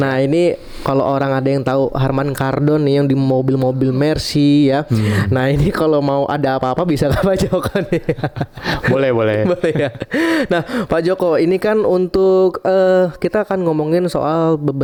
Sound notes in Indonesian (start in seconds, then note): 9.3 tertawa; 10.1 terkesiap